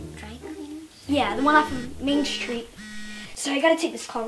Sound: cell phone buzzing

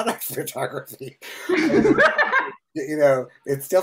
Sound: laughing

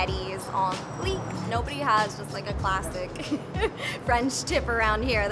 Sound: laugh

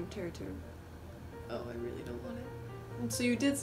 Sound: quietly

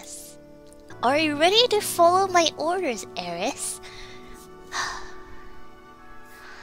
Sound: sighs

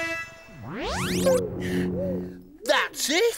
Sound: space sounds

